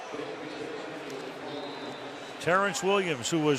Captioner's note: pa announcement